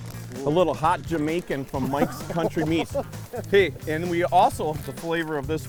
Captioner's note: laughing